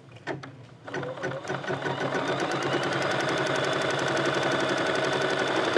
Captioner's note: stitching